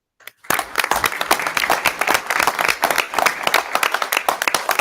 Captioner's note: all applauding